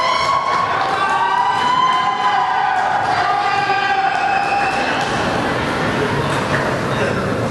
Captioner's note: audience cheering